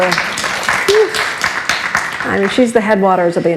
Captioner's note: applauds